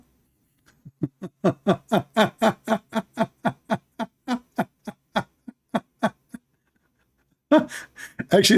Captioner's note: Ketawa